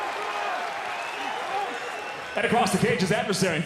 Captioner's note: audience cheering